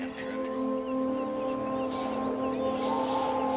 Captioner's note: wind blows